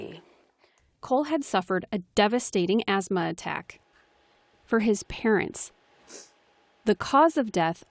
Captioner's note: voice-over